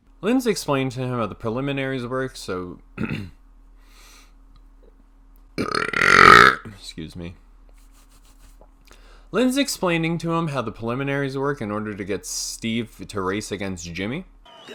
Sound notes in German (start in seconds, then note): 3.0 räuspert sich; 5.6 Wahnsinniges Rülpsen